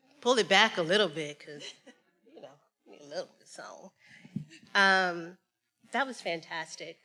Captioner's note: speaks faintly